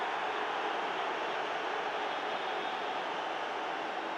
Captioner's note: crowd cheering